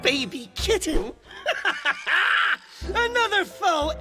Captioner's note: Giovanni laughs